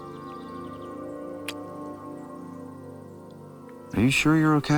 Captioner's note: kissing